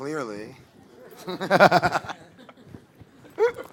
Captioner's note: laughing